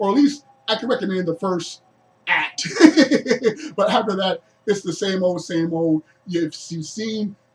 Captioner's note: laughs